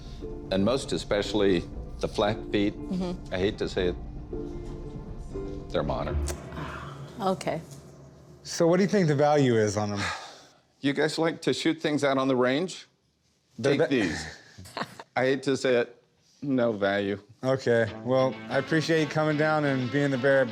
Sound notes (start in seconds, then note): 13.7 laughs